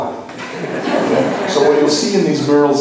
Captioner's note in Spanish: laughs